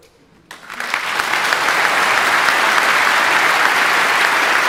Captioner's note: audience applauding